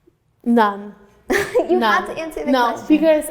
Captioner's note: laughing